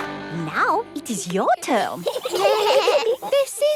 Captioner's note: children giggling